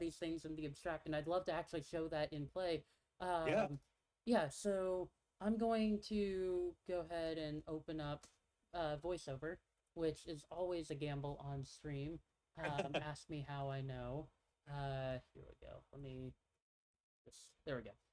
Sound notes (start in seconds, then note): 12.6 laughs